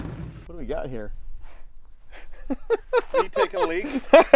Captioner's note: both laugh